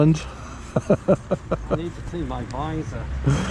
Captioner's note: laughter